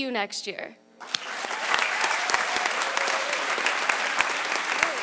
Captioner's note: audience applause